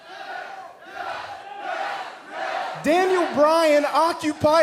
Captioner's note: fans chanting